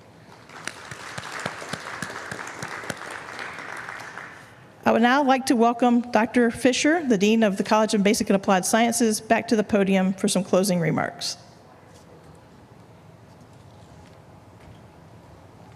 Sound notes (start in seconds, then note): 4.4 applause